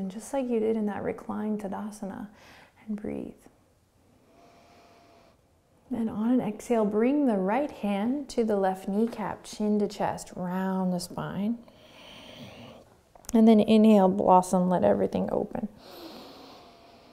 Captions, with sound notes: just like you did in that reclined Tadasana. And breathe. (inhaling) Then on an exhale, bring the right hand to the left kneecap, chin to chest. Round the spine. And then inhale, blossom. Let everything open.